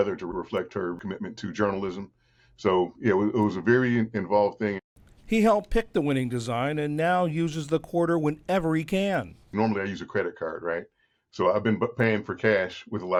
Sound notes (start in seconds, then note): 5.6 voice-over